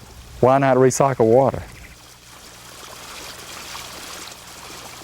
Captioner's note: water trickling